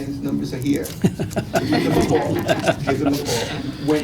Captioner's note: laughter